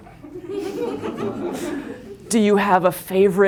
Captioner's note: laughter